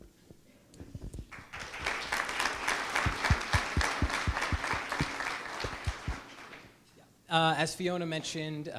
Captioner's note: applause